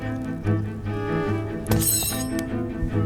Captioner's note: clanging